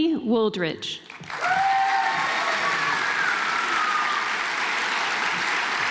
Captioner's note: audience applauds